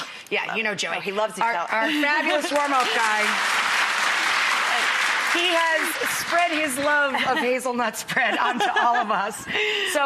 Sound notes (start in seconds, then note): 2.1 applause